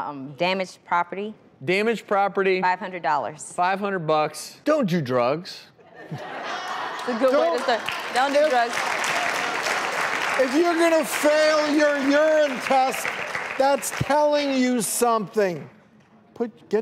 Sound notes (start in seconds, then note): 6.0 audience laughing; 9.6 audience clapping